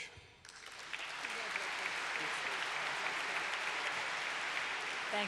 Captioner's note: applause